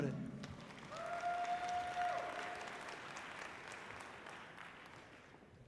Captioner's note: audience cheering loudly